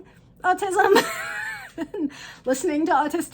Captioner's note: chuckles